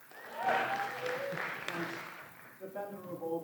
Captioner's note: applause